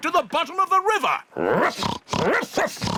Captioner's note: oinks; barks